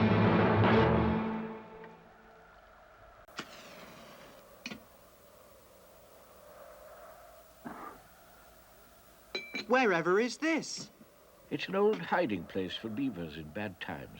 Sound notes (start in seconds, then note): 1.5 wind howls softly; 3.3 match sizzles; 7.6 beaver exhales